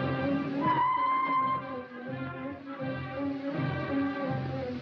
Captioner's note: whistle blows